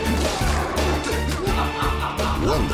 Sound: laughing

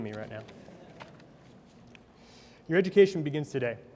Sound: audience laughs

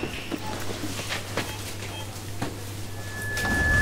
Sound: cash register beeping; tone ringing

